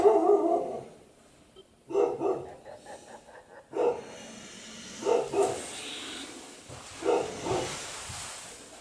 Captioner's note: evil laughing